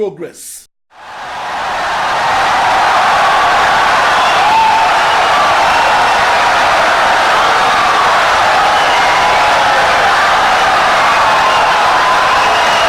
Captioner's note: wild applause and cheering for 17 seconds